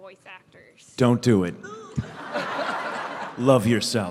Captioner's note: laughter